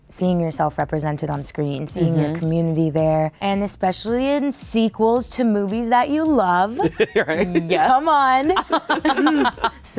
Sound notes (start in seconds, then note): 6.8 laughing; 8.3 laughter